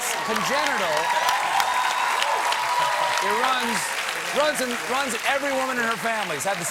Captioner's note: cheers and applause